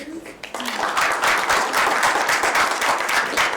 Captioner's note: applause